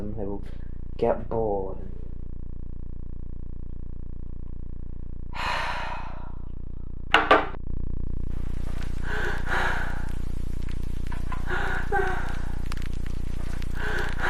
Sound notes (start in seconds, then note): 5.4 sighing; 10.0 heavy breathing